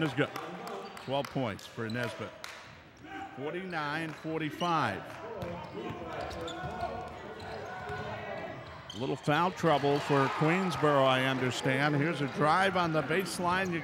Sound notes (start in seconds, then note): 5.3 ball pounding